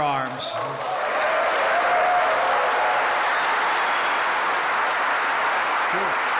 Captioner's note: applause